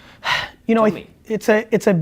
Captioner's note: sighing